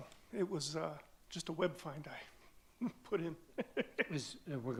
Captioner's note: laughs